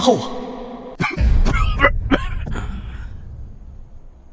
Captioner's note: cough cough cough